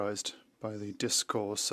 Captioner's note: speaking French